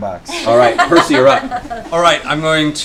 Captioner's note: laughter